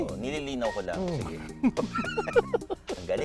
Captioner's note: both laughing